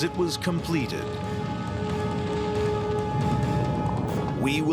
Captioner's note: fire roaring